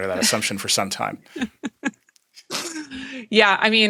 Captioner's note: laughing